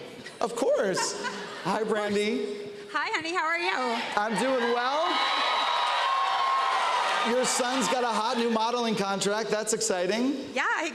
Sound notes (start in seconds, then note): 3.7 cheers and applause